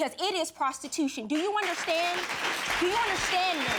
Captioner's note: audience applauding